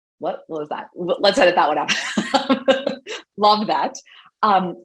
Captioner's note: laughs